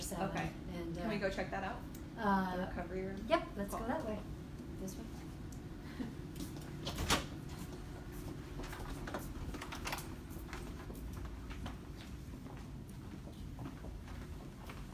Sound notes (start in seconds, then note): 6.9 lock opens; 13.0 footsteps